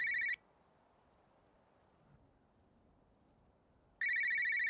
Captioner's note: phone ringing